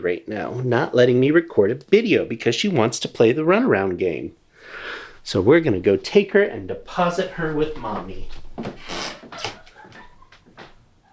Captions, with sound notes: right now - not letting me record a video play the run around game. So we're going to go take her and deposit her with mommy. [Wife laughs]